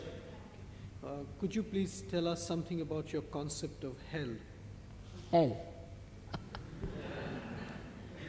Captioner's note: shri mataji laughs